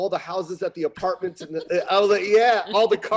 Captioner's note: laughing